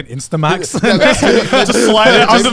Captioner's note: group laughs